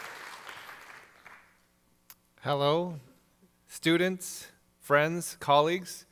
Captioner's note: applause